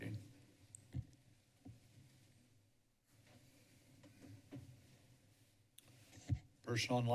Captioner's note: silence